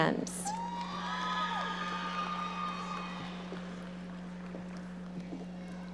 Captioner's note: audience cheering and applauding